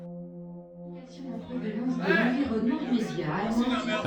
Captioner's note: confused arguing